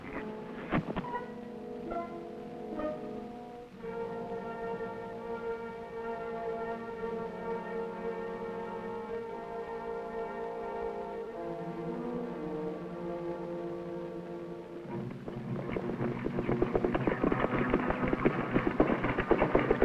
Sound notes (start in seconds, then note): 0.7 body thuds; 4.1 dramatic music